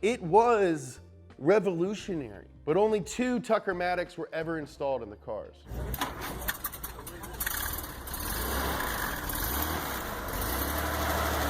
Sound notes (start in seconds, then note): 5.7 car starting; 7.4 engine revving